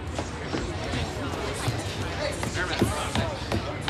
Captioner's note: people chattering